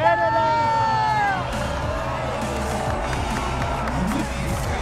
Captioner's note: cheering